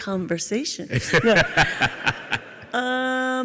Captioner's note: Tim and audience laugh